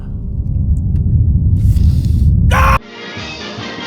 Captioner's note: rumbling sounds